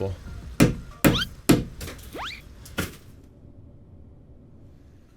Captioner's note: slide whistle